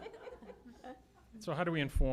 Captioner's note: laughter